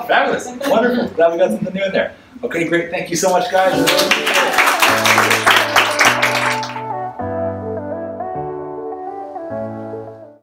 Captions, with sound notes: - Oh, fabulous, wonderful. Glad we got something new in there. Okay, great, thank you so much, guys. (audience applauds)